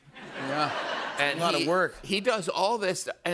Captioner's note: laughter